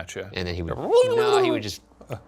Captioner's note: Shane squeals